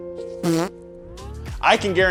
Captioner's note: somber music; farting